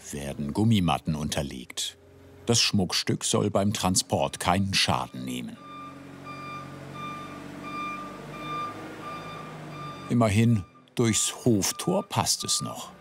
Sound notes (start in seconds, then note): 5.6 the forklift beeps and hums softly